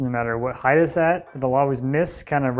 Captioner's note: none